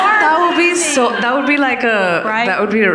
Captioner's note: audience laughing